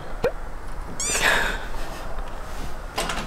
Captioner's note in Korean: 헛웃음